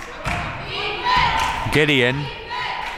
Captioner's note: claps; claps